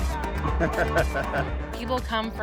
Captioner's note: exciting techno music; cameraman laughing